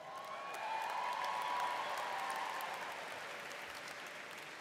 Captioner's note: audience cheers